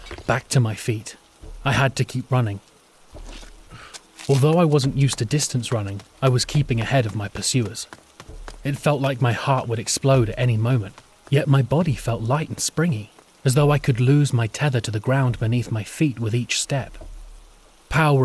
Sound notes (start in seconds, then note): none